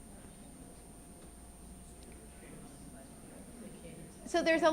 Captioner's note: audience murmurs